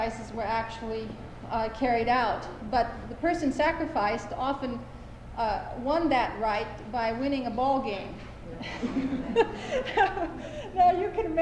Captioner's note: laughter